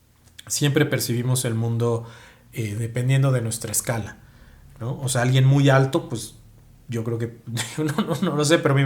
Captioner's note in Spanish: risas